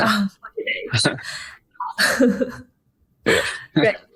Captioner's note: laughing